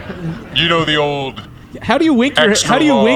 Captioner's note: laughing